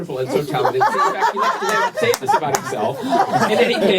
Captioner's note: laughter